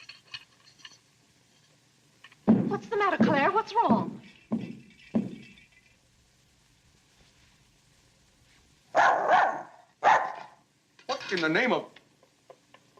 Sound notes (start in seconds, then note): 2.4 stomps foot; 4.5 clatters; 8.9 dog barks